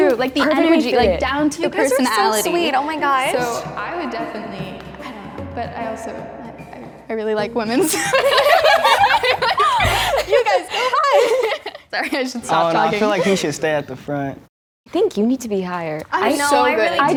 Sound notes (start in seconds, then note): 7.8 girls laughing